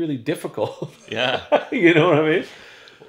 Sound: laughs

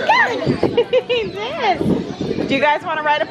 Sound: laughs

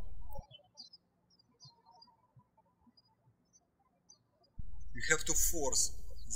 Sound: birds chirping

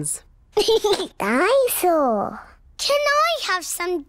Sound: giggles

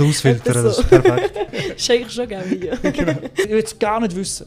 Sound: laughing intesifies further

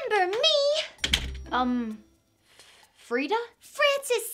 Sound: door clicks

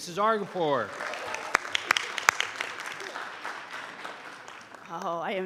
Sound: audience applauding

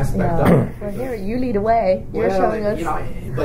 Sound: coughs

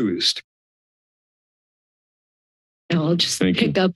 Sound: silence

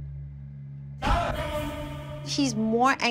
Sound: distorted shouts

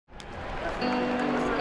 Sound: crowd cheering; gentle acoustic music

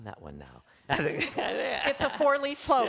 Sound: laughter

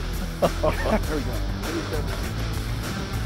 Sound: laughing

